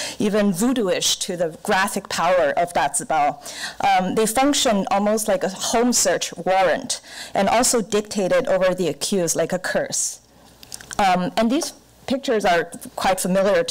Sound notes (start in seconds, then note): none